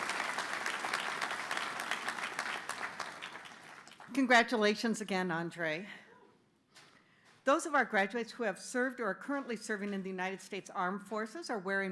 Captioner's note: applause